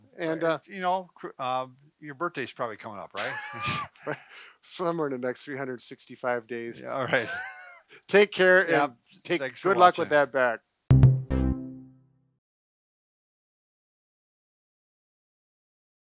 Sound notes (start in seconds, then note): 3.2 laughing